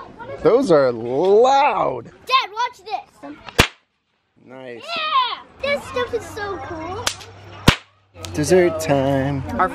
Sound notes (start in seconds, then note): 3.4 popping; 7.6 popping